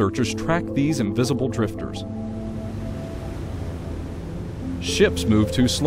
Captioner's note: boat sound